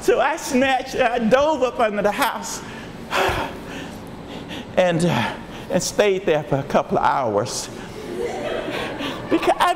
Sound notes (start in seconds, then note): 2.9 panting; 7.8 audience laughs